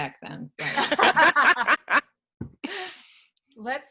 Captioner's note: laughing